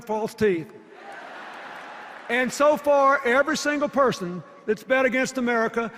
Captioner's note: laughter